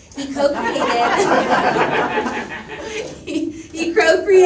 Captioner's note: audience laughs